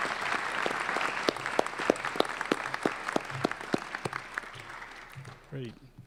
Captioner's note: applause